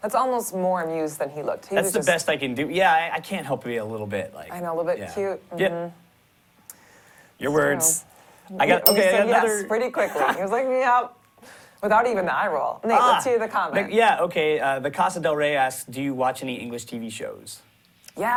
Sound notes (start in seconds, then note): 8.8 bell rings